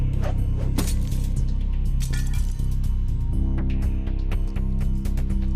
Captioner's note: knives clattering